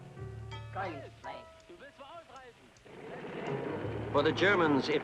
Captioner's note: people speaking in German